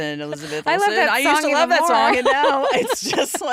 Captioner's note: laughs